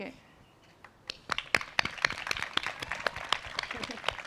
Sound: applause

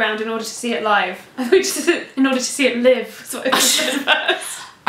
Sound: laughter

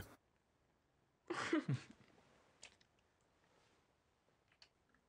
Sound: giggling

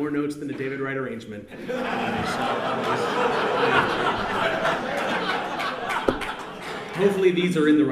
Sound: audience laughs

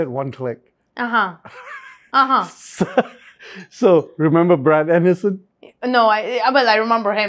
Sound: laughs

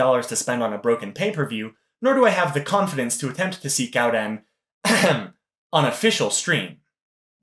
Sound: ahem

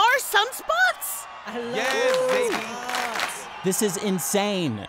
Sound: restaurant goers cheering

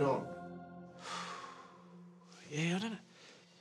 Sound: exhales

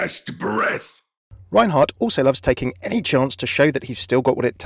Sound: voiceover

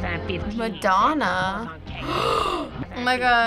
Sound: gasps

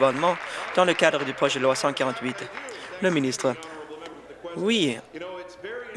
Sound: applause

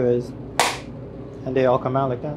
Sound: mold cracks

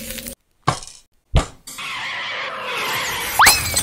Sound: crash; engine Reving up

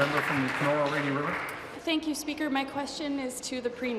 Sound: applause

